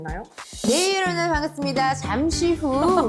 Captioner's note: comes out without taking a breath sound effect